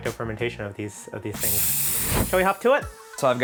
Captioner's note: air hissing